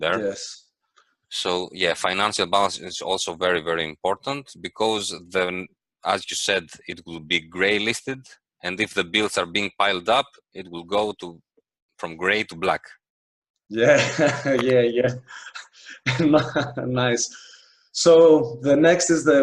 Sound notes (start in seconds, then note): 15.1 laughs